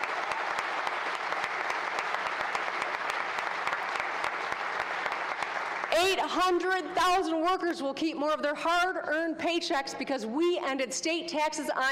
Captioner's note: applause